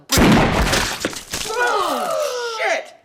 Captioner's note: gun shot; crowd gasps